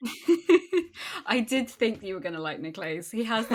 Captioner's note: laughs